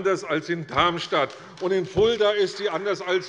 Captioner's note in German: Beifall bei Abgeordneten der CDU